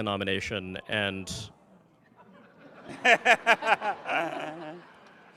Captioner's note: everyone laughs